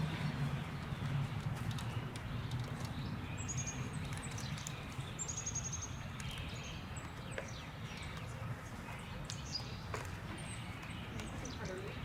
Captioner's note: flipping pages